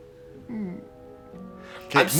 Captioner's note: whimpers